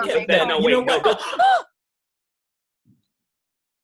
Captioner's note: all gasp